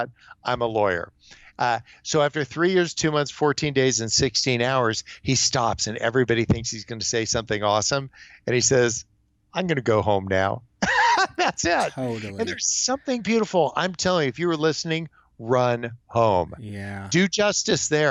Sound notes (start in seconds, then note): 10.8 laughs